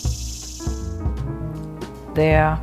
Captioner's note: soundbite of archived recording